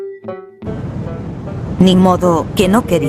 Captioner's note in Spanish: Sonido de Mochila Propulsora